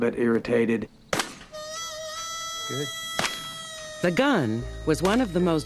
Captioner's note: gunshots